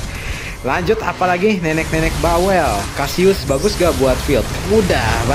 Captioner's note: grunting